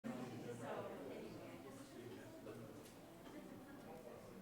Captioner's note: indistinct chats